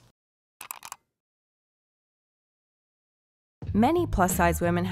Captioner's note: keyboard clicking